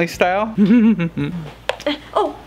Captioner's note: laughing